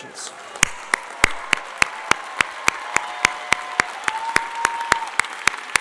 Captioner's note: clapping; shouting